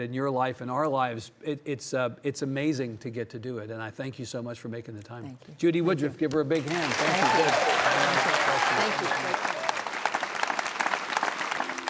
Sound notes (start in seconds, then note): 6.5 audience applauding; 6.6 audience cheering